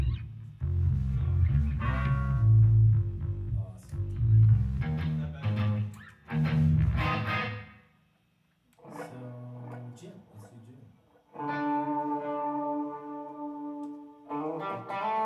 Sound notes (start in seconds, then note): 0.1 background Chatter